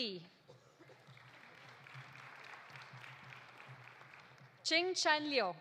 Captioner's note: audience applauding